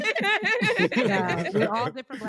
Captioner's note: laughing